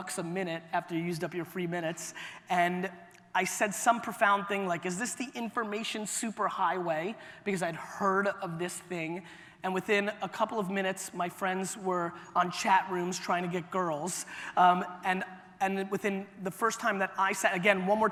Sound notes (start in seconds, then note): none